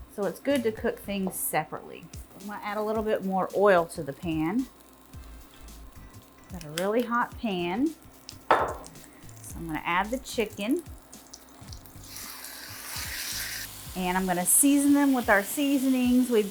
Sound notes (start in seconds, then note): 11.9 chicken sizzling